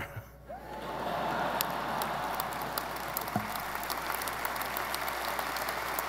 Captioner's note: audience laughing and applauding